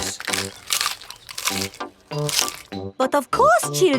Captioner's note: munching